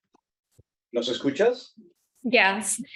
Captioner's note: speaking Spanish